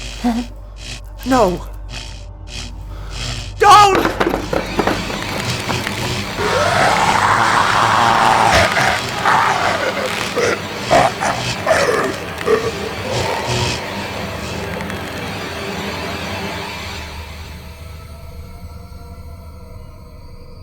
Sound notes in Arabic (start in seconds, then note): 4.6 موسيقى مخيفة; 6.6 زمجرة عالية وشخير; 13.3 موسيقى مشؤومة